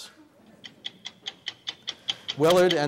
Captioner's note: clock ticking